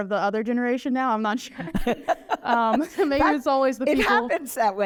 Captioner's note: laughter